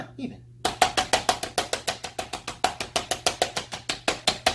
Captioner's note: hammering